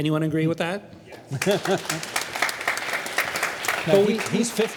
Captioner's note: crowd applauding